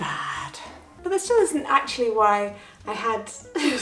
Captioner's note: chuckling